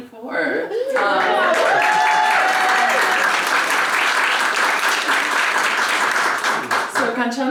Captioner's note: applause